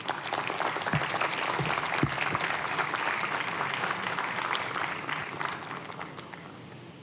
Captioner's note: applause